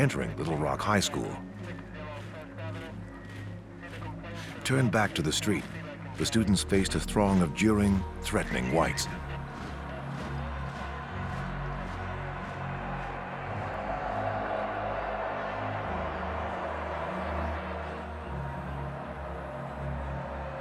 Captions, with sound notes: FROM ENTERING LITTLE ROCK HIGH SCHOOL. TURNED BACK TO THE STREET, THE STUDENTS FACED A THRONG OF JEERING, THREATENING WHITES. [CROWD MURMUR]